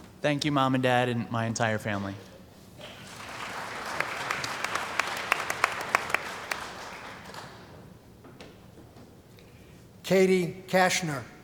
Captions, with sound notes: >> Thank you, mom and dad and my entire family. [ Applause ] >> Katie Kashner.